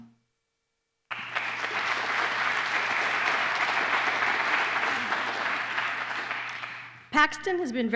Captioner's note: applause